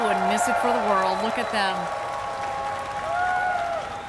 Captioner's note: cheers and applause